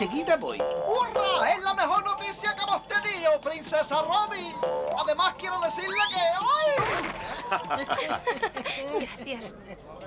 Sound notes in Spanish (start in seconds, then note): 6.8 ríen